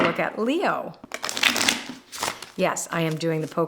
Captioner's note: shuffling